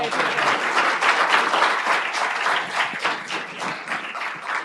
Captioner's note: applause